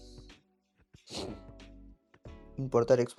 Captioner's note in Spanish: Resoplido